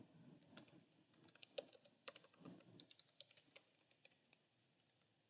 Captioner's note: keyboard clicking